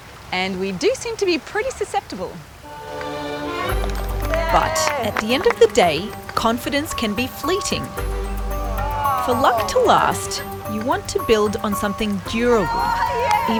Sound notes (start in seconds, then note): 2.7 all cheer; 8.7 all groan